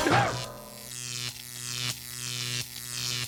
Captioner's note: electricity crackles